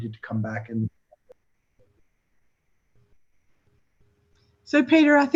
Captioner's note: audio warbles